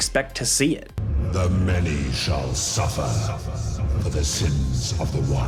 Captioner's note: thunderous Voice